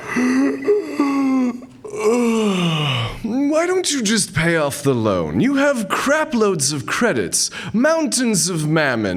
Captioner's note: yawn